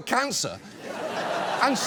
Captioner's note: studio audience laughs